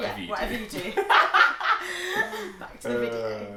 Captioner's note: both laughing